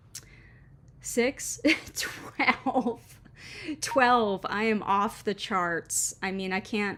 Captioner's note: sudden laugh